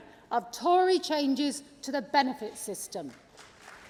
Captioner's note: applause